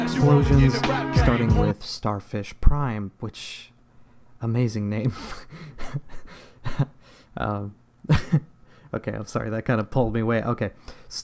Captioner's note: laughs